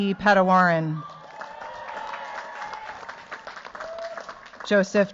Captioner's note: cheers, applause